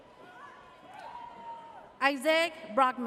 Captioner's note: audience cheers